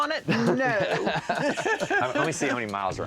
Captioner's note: laughing